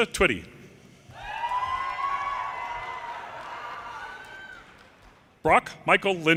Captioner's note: audience cheers and applause